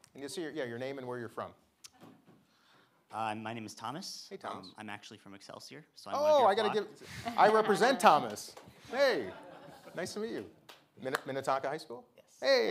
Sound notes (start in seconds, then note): 9.0 audience laughing